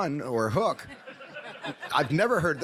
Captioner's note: audience laughs